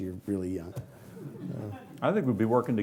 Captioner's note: laughing